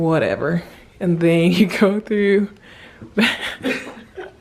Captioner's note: laughing